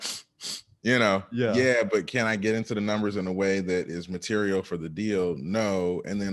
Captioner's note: sniff sniff